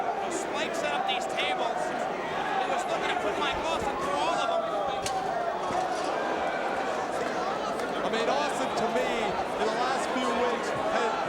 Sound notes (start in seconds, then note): 5.1 crowd vocalizing; 5.1 guardrail clattering